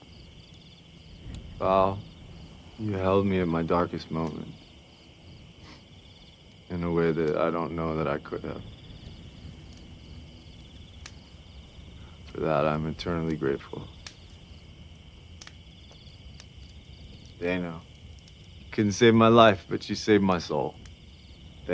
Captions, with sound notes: Val, you held me in my darkest moment, (sniffs) in a way that I don't know that I could have. For that, I'm eternally grateful. Dayne couldn't save my life, but you saved my soul.